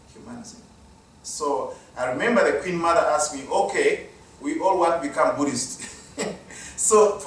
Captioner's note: laugh